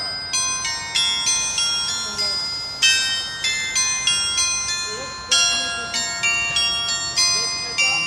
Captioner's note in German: glocke